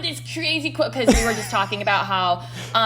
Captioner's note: laughs